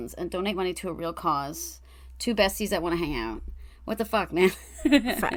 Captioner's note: laughs